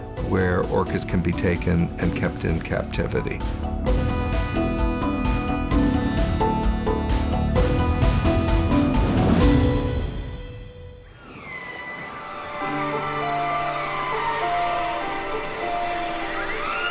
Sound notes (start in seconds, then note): 4.8 energetic music; 12.1 squealing